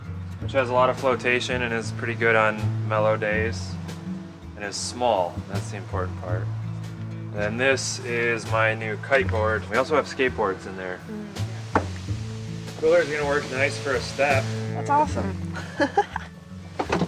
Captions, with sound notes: which has a lot of flotation and is pretty good on mellow days and is small. That's the important part. And this is my new kite board. We also have skateboards in there. Cooler's gonna work nice for a step. - That's awesome (chuckles).